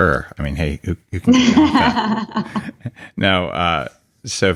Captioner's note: laughing